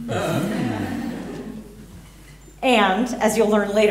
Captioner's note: laughter